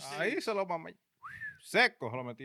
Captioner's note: speaking In Foreign Language